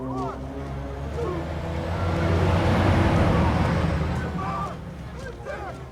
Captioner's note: truck rumbling